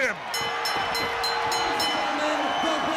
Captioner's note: bell ringing; crowd cheering